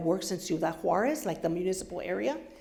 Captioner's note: foreign language